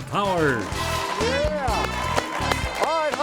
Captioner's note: audience clapping; bright upbeat music